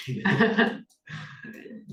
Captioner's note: laughs